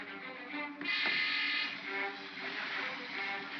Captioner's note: crocodiles hiss; ominous music; thump; ominous music; crocodiles hiss